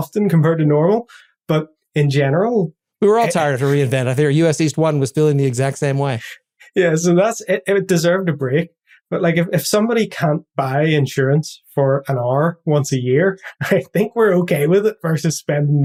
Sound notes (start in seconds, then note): 13.4 laugh